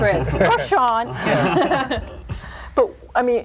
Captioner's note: group laughing